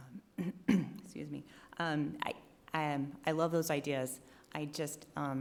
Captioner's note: clears throat